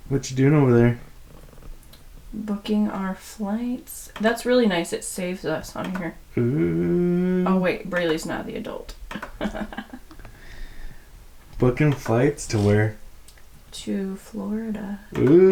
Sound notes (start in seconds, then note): 6.3 humming; 9.2 laughter